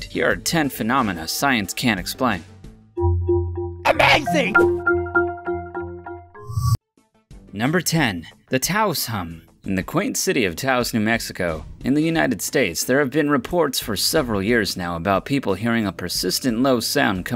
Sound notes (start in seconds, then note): 3.0 whimsical xylophone music; 6.4 logo whooshing